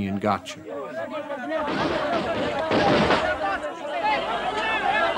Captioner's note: gunshots